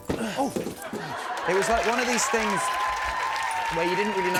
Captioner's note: cheers and applause